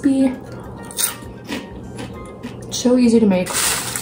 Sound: crunching

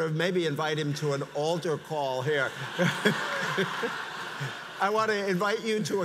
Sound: audience laughs

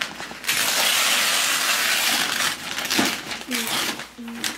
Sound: paper ripping

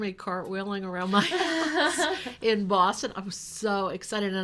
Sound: laughs

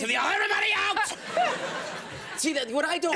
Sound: audience laughs

